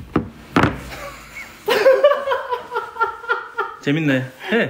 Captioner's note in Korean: 웃참 실패